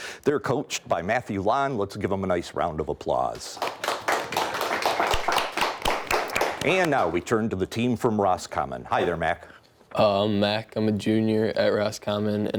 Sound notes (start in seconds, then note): 3.6 audience applauds